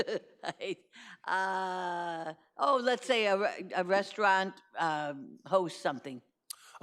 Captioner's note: laughs